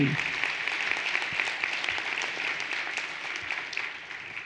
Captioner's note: everyone applauding